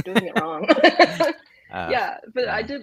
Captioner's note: laughs